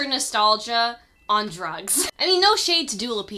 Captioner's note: chuckles